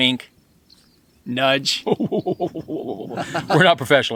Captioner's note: laughing